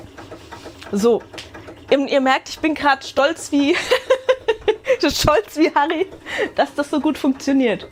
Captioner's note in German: Gelächter